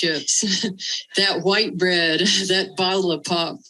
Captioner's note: laughter